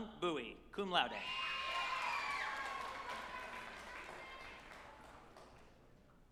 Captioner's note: group applauding and cheering